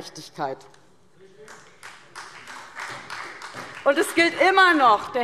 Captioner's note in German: Beifall SPD